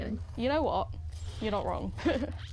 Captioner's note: laughs